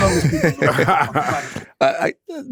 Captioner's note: all laughing